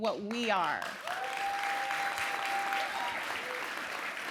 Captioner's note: cheers